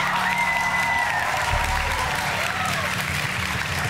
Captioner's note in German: Jubel